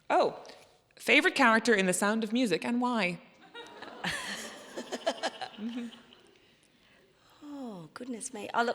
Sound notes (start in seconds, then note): 3.5 audience chuckling